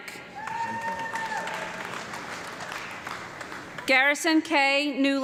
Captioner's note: audience clapping